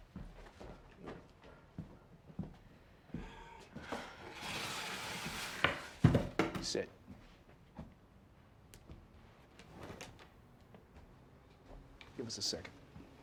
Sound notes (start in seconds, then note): 3.1 Andre sighs